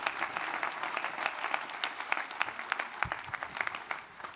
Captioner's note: audience applauding